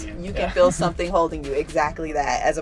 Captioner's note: laughs